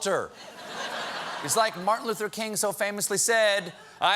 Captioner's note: laughter